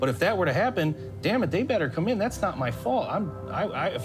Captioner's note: none